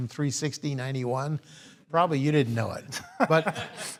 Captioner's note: laugh